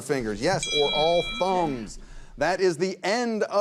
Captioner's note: bell chimes